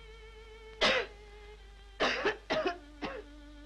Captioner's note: coughs